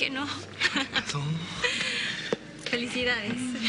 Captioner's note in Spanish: Ríe